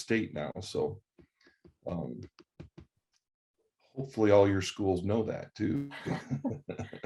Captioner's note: laughs